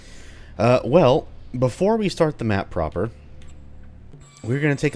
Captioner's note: door squeaks